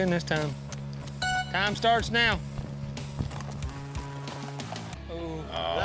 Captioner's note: horn blows